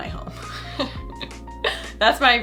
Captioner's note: chuckling